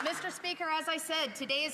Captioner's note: some Applause